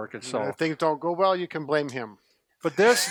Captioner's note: laughing